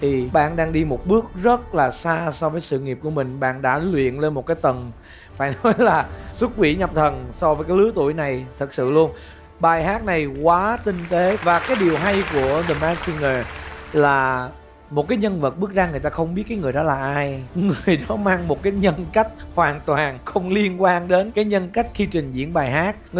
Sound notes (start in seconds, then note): 10.8 applause